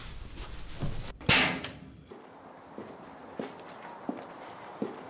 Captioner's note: fist slams